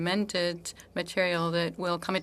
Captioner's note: speaking French